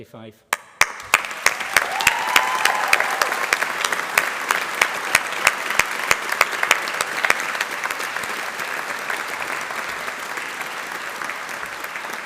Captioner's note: applause